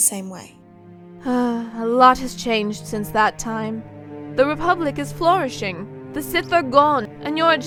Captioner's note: sighs